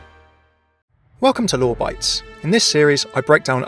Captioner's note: voiceover